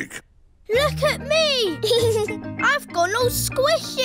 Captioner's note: giggles